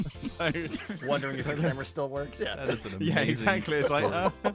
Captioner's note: laughing from several